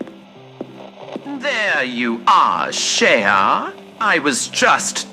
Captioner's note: slight reverberation from hall